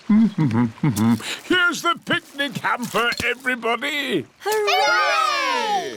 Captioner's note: hums